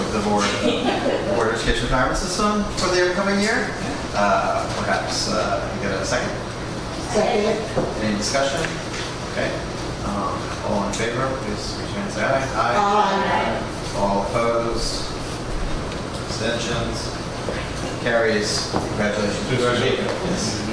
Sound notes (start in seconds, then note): 12.6 A chorus of ayes